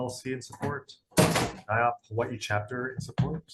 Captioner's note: loud clattering